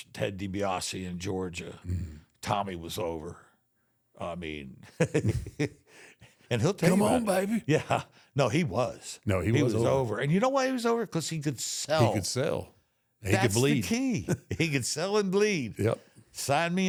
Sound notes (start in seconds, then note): 6.8 laughs